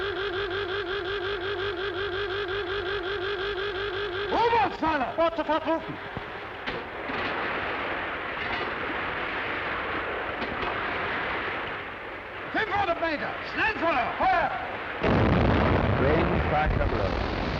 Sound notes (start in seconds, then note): 4.0 speaking in foreign language; 14.8 cannon firing